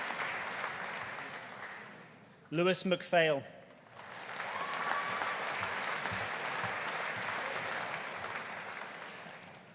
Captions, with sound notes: Lewis McPhail. (AUDIENCE CHEERING) (AUDIENCE APPLAUDING)